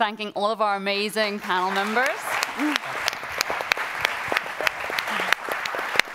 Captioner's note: audience applauding